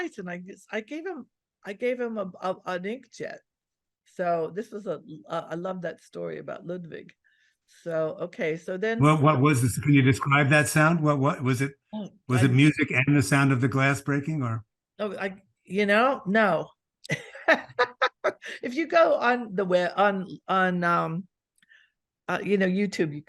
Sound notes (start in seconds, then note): 17.1 laughs